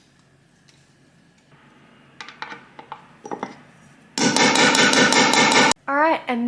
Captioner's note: snipping and banging sounds